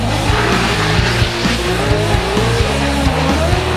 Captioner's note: car engines roar; dramatic music